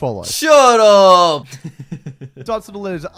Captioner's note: laughing